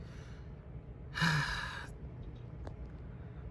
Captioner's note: sighs